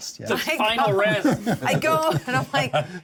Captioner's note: laughter